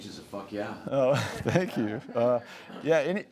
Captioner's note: laughs